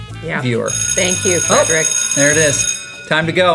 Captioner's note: bell rings